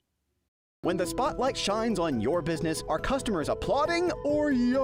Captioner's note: voiceover